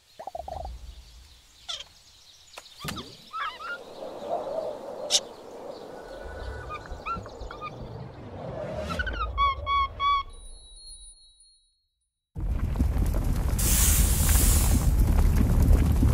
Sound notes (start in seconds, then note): 0.1 stars popping; 2.1 monkey chattering; 12.4 lava bubbling